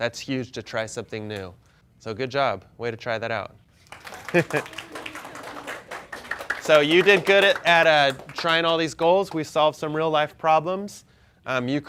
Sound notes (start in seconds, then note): 4.1 chuckles